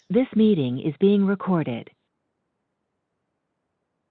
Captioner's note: automated Voice